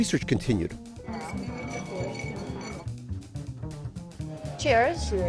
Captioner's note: ice rattling